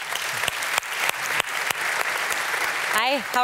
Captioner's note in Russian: публика аплодирует